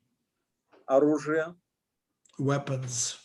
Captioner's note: speaking Russian language